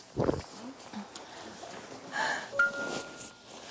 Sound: catching her breath

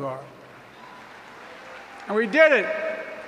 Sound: applause

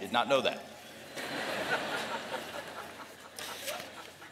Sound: laughter

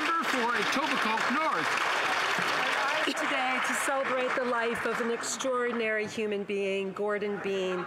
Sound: some Applause

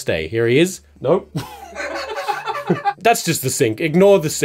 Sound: laughter

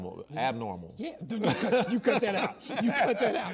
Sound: laughs

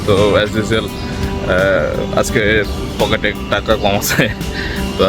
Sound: laughing

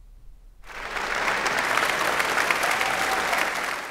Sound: audience applauds

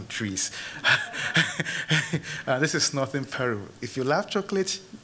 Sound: chuckles

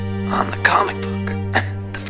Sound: cough

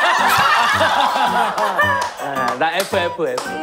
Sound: laughing

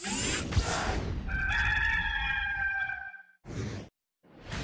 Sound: rooster crowing

